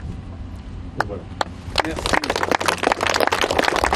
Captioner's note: applause